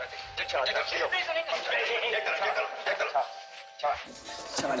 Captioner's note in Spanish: Exclamaciones; Exclamaciones